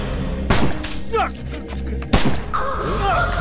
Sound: gunshot

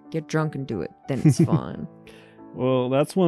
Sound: chuckles

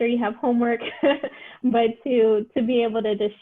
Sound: laughter

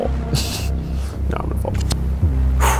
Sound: laughs

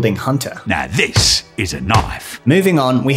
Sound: fists pounding

